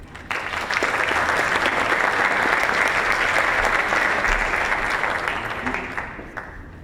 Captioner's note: applause